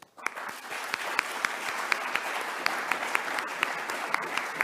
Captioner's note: audience applauding